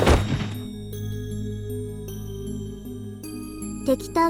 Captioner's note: thud